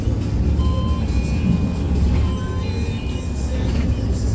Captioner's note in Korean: 하차벨 소리